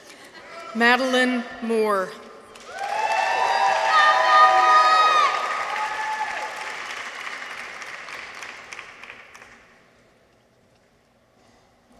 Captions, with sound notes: Madeleine Moore. -(people cheer) -(audience applauds)